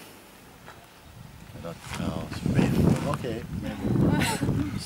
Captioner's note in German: Klang von Donner